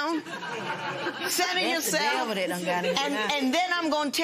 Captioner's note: laughter